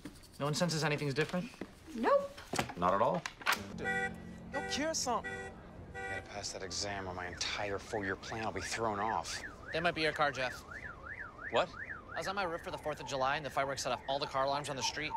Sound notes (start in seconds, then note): 3.8 car alarm going off